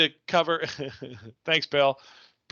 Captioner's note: laughs